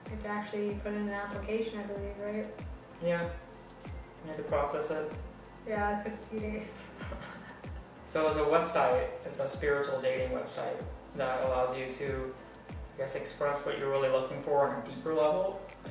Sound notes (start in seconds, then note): 6.7 laugh